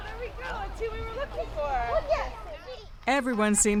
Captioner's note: children playing